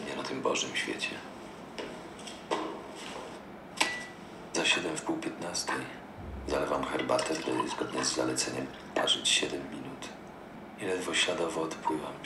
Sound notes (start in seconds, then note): 0.0 foreign language